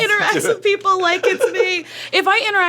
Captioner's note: laughing